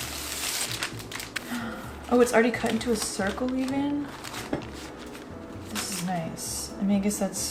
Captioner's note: gasp